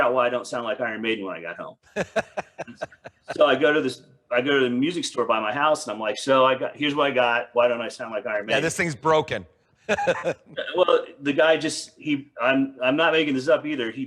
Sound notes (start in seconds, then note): 1.9 laughing